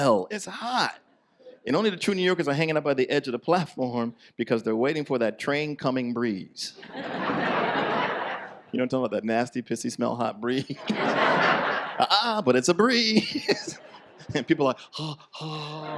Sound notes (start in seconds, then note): 6.8 audience laughs; 13.1 laughs